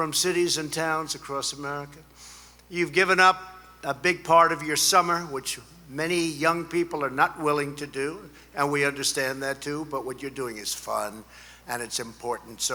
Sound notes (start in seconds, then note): none